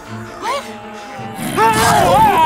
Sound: groans

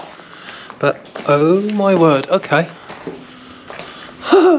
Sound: laughter

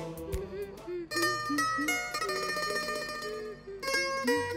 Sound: humming

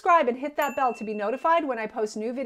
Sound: bell ringing

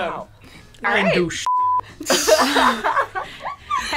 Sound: beep

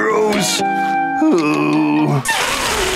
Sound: groaning

